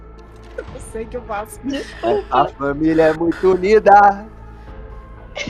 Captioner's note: laughing